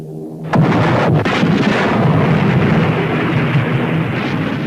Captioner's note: cannons firing